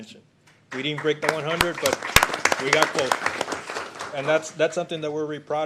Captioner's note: applause